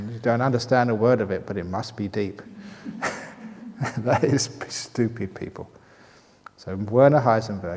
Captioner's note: chuckles